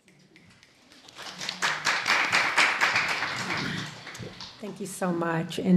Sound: audience applauding

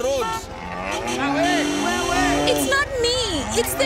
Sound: honking; cows mooing

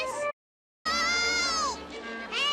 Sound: screams

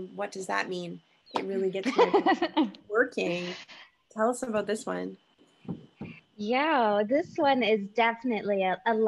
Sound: laughs

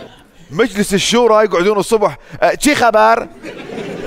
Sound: in Farsi

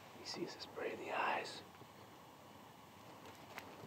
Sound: none

